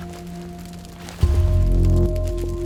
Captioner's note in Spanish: fuego crepita